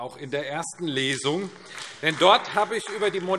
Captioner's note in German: Beifall AfD